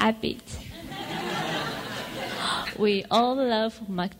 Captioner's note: audience laughs